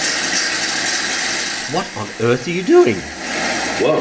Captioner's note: steam and bubble sounds